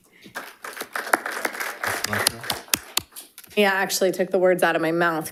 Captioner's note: audience applauding